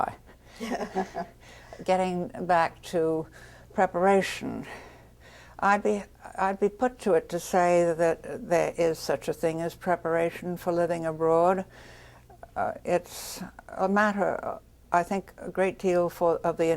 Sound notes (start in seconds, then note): 0.6 laughs